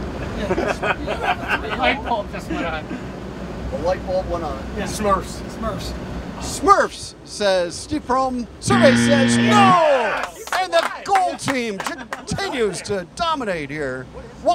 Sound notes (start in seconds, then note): 8.6 buzzer